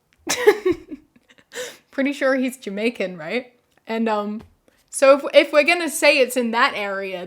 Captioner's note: laughs